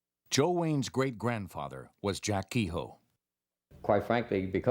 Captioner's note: voiceover